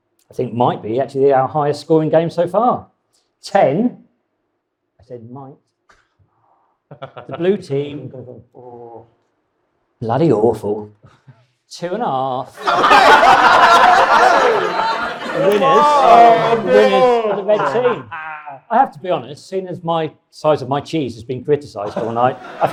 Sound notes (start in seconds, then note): 12.5 audience and panel laughs